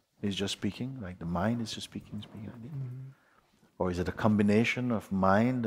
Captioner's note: makes mumbling sound